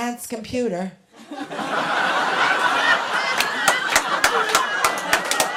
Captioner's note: laughter